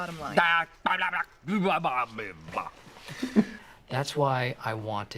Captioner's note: making gibberish noises